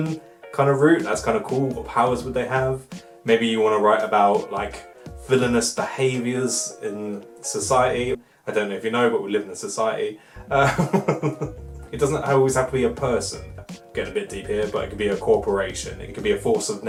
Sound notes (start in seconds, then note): 10.4 laughs